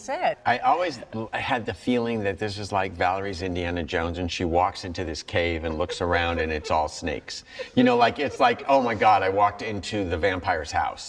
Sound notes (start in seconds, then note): 5.6 lisa chuckles